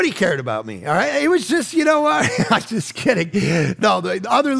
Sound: chuckles

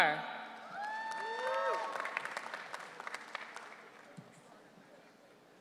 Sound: audience cheering

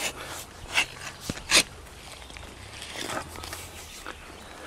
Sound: rustling

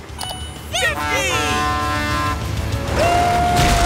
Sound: honking

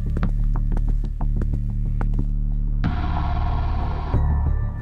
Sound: footsteps; suspenseful music

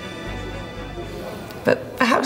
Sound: muffled chatter

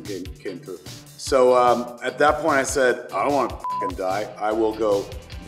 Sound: beep

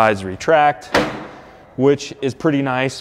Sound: metal chinking

